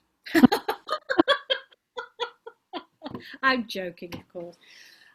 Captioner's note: both laugh